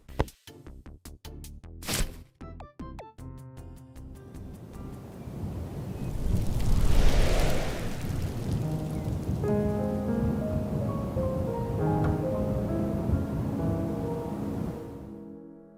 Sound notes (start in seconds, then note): none